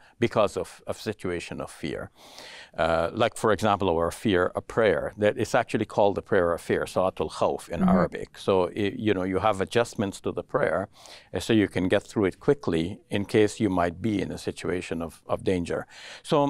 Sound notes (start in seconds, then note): 7.1 speaks in foreign Language